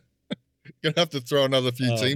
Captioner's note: laughing